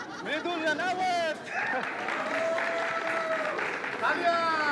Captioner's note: Applauding, cheering